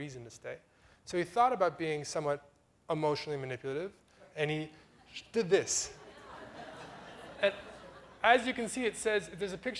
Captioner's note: audience laughter